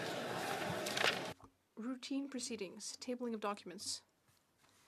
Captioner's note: speaking French